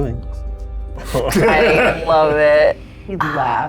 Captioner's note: group laughs